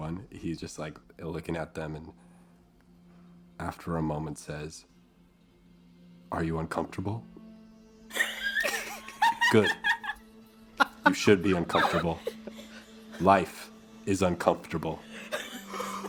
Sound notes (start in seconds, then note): 8.1 laughter